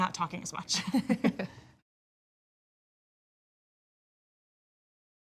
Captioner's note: both laughing